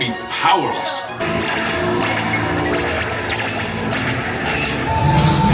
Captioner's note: lasers blasting; eerie sci-fi music; electronic whirring